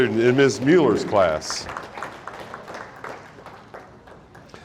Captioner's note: audience applauding